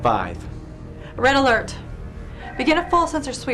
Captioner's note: klaxon